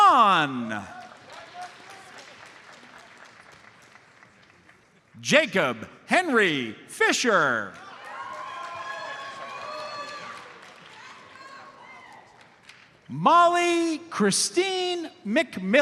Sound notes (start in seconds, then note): 0.2 audience applauds; 7.8 audience cheers and applauds